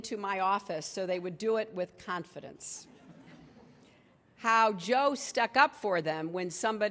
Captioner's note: laughter